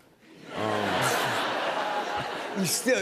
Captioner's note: laughter